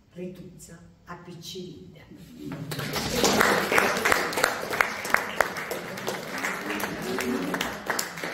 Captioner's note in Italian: Applauso